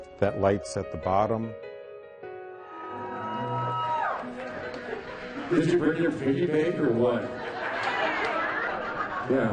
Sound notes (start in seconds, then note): 2.6 cheering; 7.0 laughing